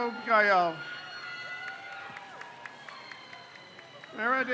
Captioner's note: crowd cheers